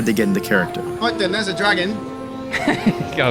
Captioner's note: in a British accent